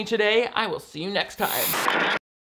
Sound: static crackles

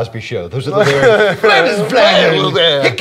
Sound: speaking gibberish

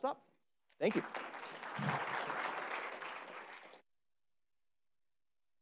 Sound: applause

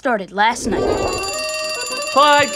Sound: ringing

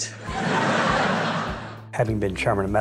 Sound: audience laughs

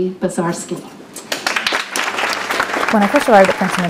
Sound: applause

